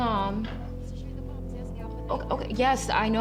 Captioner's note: indistinct chatter on phone